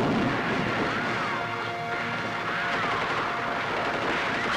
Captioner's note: Rapid gunfire